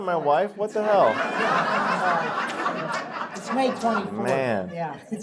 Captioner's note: laughter